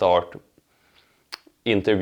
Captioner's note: lips smacking